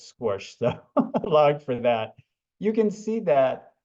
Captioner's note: laughs